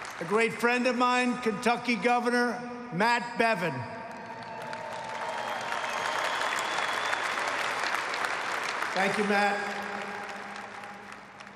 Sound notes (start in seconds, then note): 4.0 applause